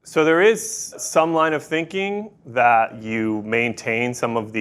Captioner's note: none